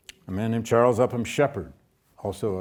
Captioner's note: none